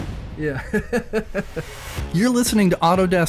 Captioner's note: laughing